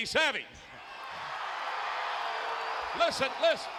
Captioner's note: crowd cheering